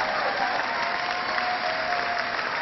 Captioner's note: laughter; cheering